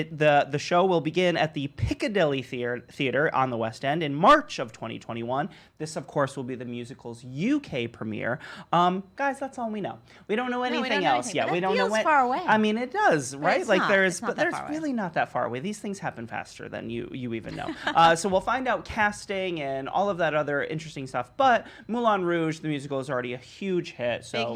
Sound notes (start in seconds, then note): 17.5 laughs